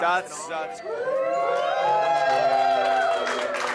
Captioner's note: guests cheering